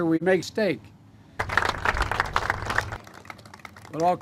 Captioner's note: audience applause